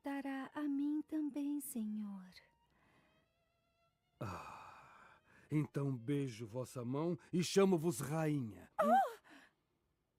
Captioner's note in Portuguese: suspirando